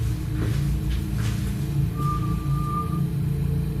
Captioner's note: whistling